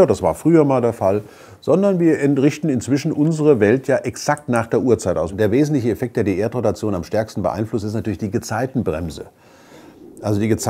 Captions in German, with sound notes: Herbst und Winter - das war früher mal der Fall - sondern wir richten unsere Welt inzwischen exakt nach der Uhrzeit aus. Und der wesentliche Effekt, der die Erdrotation am meisten beeinflusst, ist natürlich die Gezeitenbremse. [Rauschen]